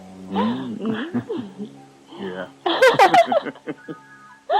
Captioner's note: laughter